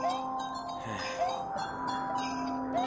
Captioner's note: sigh